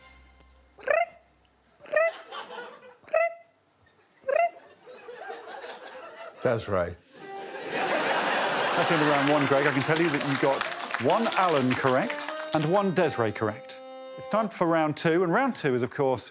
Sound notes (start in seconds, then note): 2.4 Desiree chirps; 9.2 all laughing